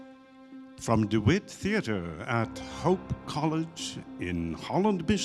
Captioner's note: voiceover